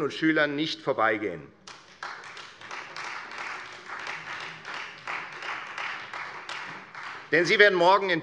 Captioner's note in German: Beifall Freie Demokraten